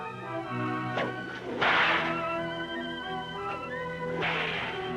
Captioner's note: cracking whip